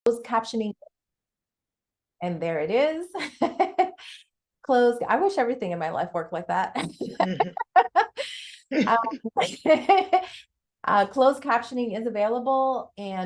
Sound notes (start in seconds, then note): 3.2 chuckles; 6.8 chuckles